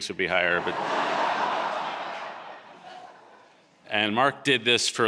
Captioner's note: audience laughing